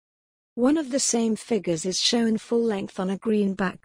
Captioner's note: voiceover